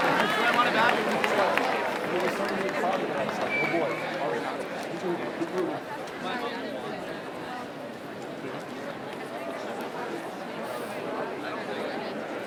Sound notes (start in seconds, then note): 4.6 cheering and bell ringing; 6.6 crowd noise in background